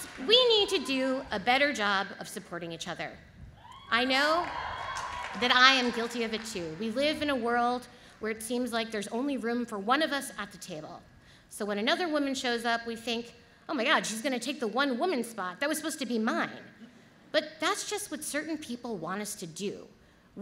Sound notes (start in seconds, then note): 4.2 audience applauds